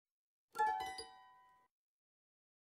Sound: chime

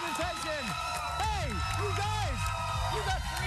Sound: cheers and applause

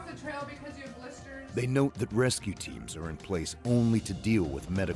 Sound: voiceover

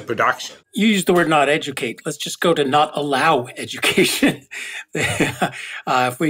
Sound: laugh

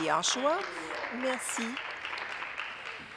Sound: applause

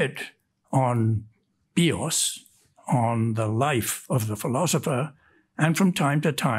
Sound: speaks in Greek

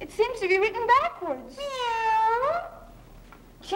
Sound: cat meowing

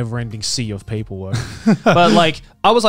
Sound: laughs

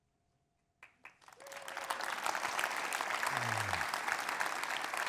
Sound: audience applauds

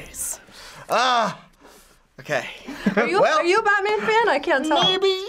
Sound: chuckles

